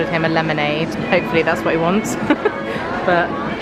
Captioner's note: laughing